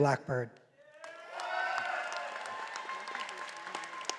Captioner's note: all applauding